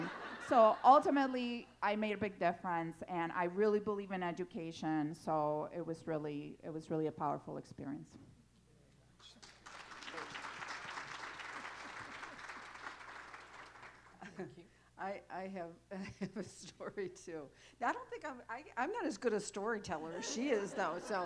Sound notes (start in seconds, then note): 9.3 applause